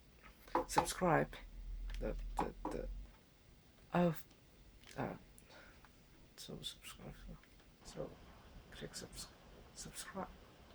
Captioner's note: knocking